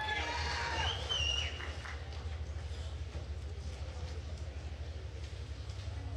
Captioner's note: attendees cheering and applauding